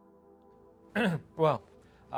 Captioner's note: Wes clears throat